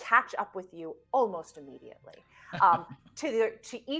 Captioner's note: laughing